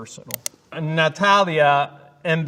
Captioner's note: mouse clicking